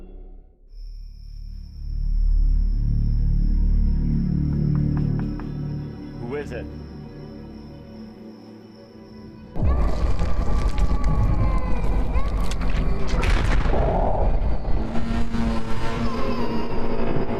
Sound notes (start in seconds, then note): 0.2 soft tense music; 4.3 knuckles rapping; 9.2 soft ominous music; 12.4 flesh squelching; 14.2 soft ominous music